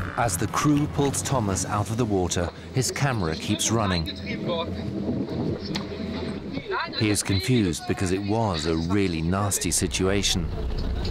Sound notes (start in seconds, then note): 4.2 speaking rapidly in German